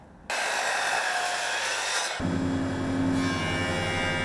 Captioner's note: saw buzzing